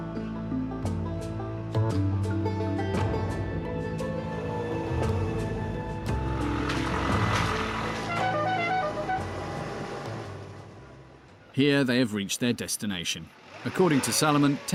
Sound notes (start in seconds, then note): 7.8 truck hooting